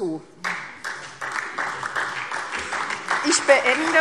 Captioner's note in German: Beifall SPD